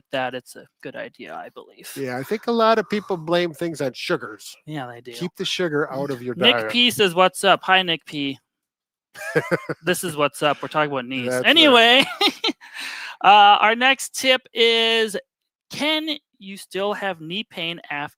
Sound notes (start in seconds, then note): 9.2 chuckles; 10.3 laughs